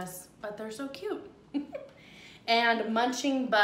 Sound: giggles

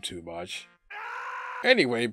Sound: werehog scream

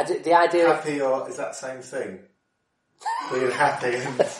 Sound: laughs

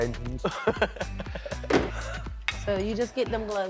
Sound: laughing

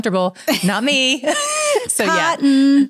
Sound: laughs

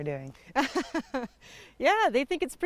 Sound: laughter

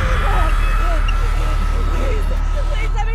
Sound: panicked breathing

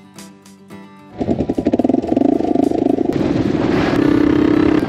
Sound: roaring engine

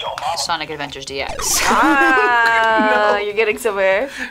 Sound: buzzer; laughs

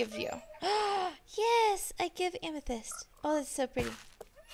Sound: gasp

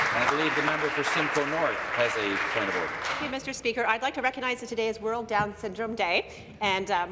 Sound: applause

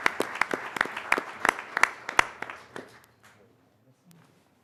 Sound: applause

